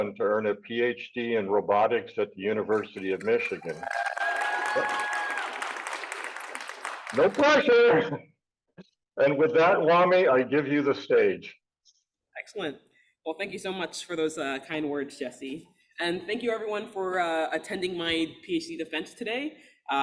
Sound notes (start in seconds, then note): 4.3 audience clapping and cheering